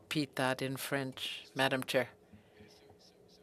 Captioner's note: speaking french